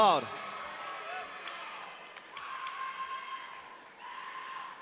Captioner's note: audience cheering